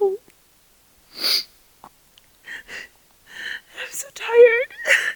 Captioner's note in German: weint